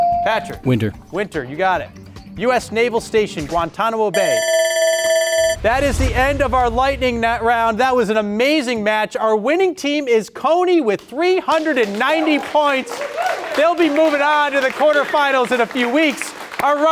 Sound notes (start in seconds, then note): 0.0 buzzer chimes; 4.1 buzzer ringing; 11.8 cheering